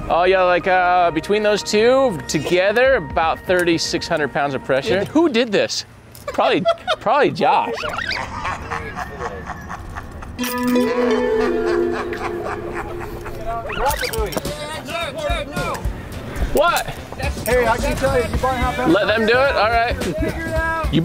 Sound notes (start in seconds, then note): 9.5 laughing